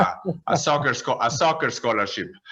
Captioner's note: laughs